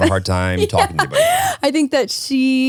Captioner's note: laughs